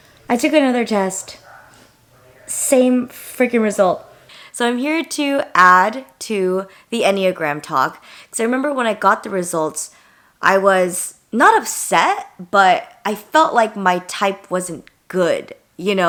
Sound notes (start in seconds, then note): none